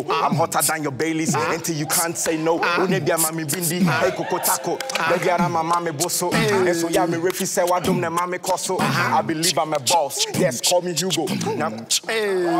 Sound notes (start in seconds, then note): 2.9 raps using African dialect